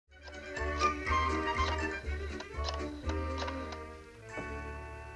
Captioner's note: rotary phone dialing